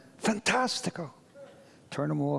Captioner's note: speaks foreign language